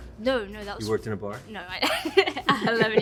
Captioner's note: laughs